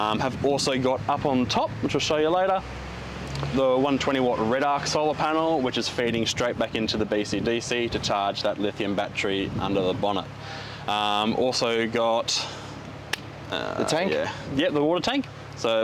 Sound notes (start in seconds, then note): 13.1 hands clap